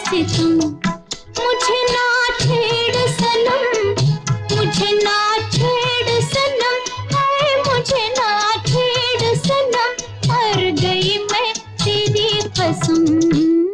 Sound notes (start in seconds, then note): none